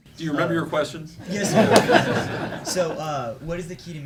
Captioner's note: laughing